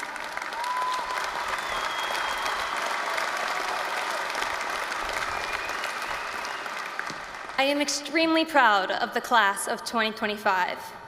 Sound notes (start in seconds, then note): 0.0 applause, cheering